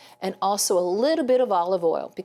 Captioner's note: none